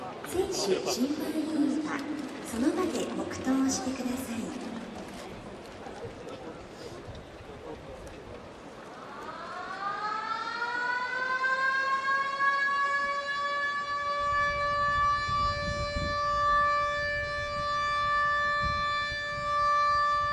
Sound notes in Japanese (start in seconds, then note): 8.8 サイレンの音